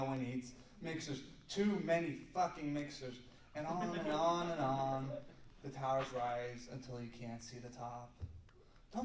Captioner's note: laughter